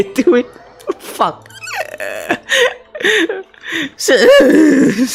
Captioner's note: laughs